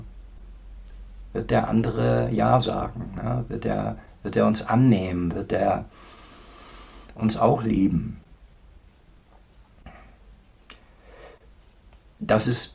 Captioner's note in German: schnauben